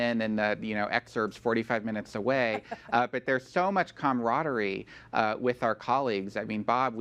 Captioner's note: laughter